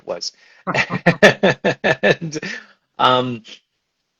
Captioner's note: laughs